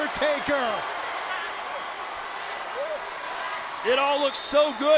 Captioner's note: crowd cheering